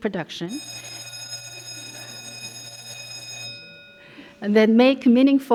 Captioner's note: bell rings